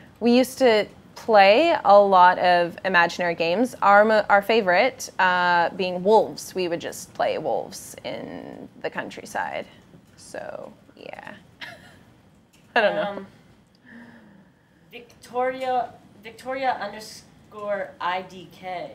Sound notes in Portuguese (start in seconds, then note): 11.6 risos